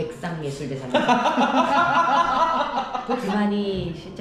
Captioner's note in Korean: 빵터짐